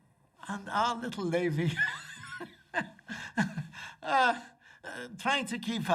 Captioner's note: laughs